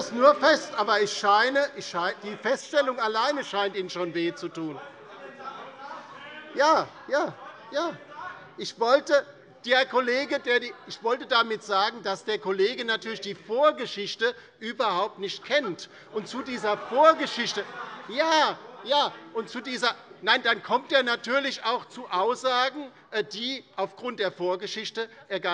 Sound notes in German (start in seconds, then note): 16.1 Lachen BÜNDNIS 90/DIE GRÜNEN